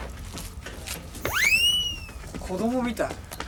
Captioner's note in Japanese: 効果音 ピューン